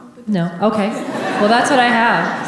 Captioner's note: audience laughing